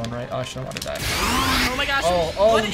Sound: both Pokémon snarl

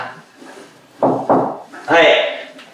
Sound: knock knock

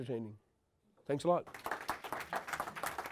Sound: applause

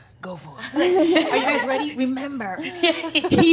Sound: laughs

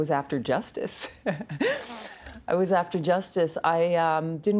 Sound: laughing

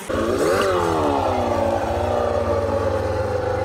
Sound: engine revving

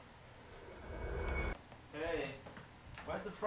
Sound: warp swoosh

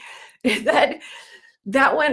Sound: laughs

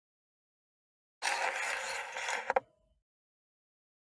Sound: sound of cassette

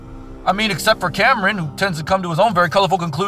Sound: none

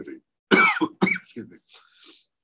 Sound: coughs

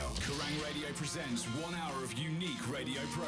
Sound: radio Announcer

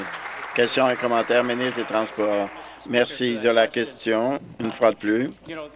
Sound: applause

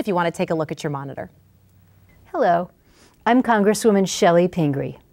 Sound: none

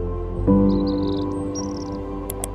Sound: mouse click

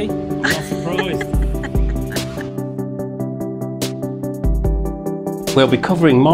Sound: laughs

